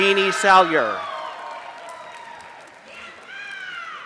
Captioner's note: applause